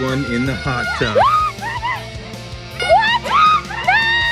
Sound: woman shouts

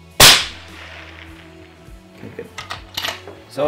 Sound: fires gun

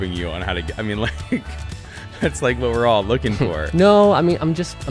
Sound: laughs

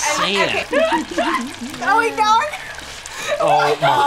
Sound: laughs

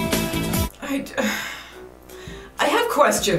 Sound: sighs disapprovingly

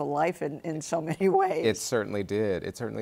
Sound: chuckles

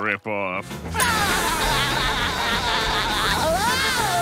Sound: laughing

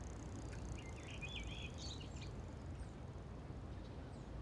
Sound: birds chirping

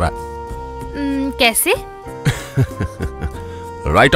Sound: laughs

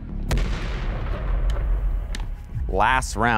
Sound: explosion sound

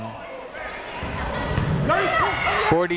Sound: people shouting in the crowd

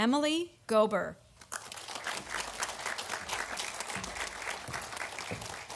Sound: audience applauding

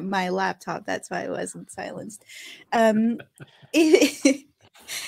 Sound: chuckles

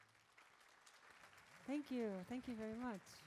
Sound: audience claps

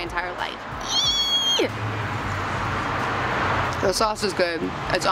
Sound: squeals

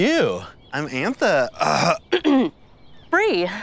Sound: coughs

